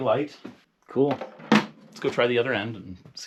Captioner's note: box clanking